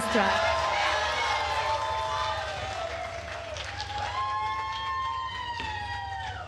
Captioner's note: attendees cheering and applauding